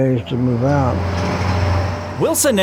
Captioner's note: truck engine revving